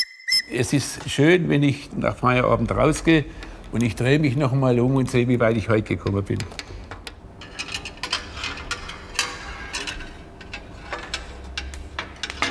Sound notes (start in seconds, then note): 7.4 metallic noises